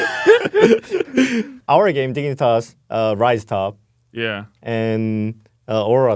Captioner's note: laughs